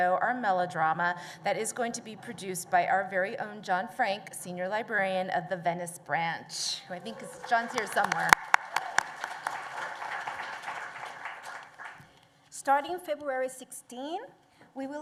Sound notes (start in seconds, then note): 8.5 applause